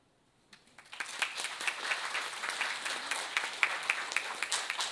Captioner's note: audience applauds